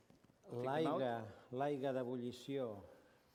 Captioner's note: non-english speech